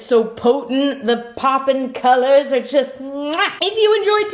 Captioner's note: lips smacking